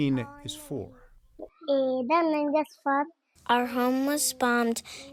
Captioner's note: through translator